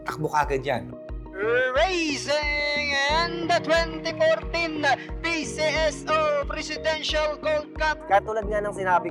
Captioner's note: commentator speaking